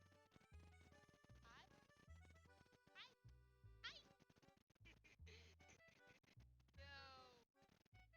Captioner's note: laughter